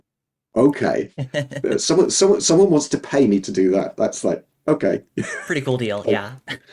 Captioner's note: laughing